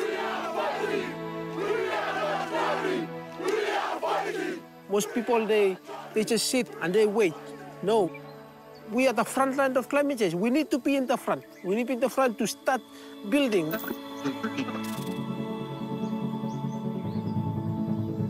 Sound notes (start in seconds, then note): 14.1 static buzzes; 16.1 ambient music